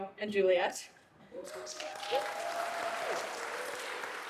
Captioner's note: applause